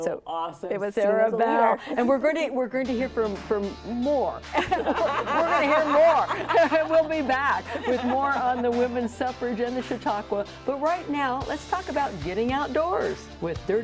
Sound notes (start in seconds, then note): 4.6 chuckles; 4.6 laughs